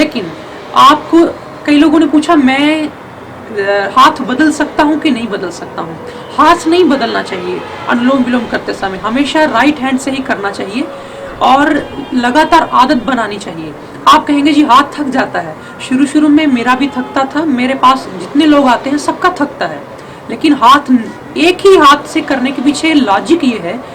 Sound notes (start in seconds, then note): 6.0 alternate nostril breathing